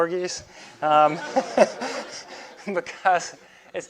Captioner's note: students laugh